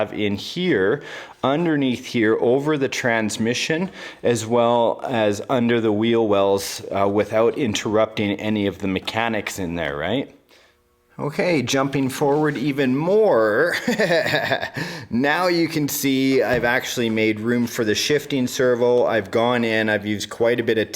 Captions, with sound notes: I have in here, underneath here, over the transmission, as well as under the wheel wells, uh, without interrupting any of the mechanics in there, right? Okay, jumping forward even more, (laughing) Now, you can see I've actually made room for the shifting servo, I've gone in, I've used quite a bit of tape.